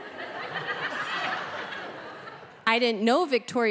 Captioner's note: audience laughing